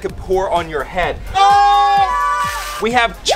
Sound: group screams

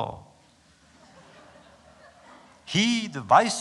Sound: laughter

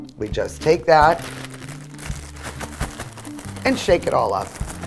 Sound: bag crinkles

